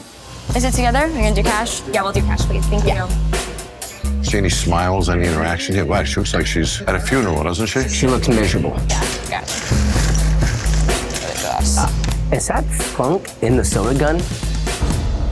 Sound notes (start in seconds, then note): 8.0 ice scooping; 15.0 eerie music